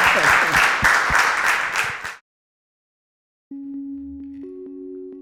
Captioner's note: audience clapping